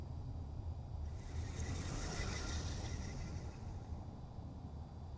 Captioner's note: soft chittering